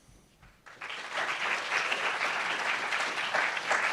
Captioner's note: applauds